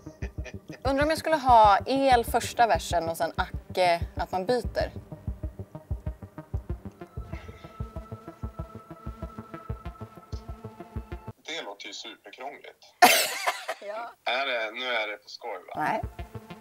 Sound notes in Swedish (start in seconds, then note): 13.0 Skratt